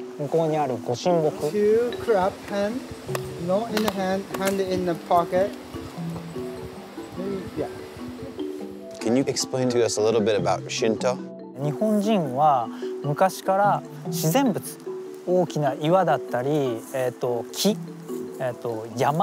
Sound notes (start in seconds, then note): 11.7 speaking in Japanese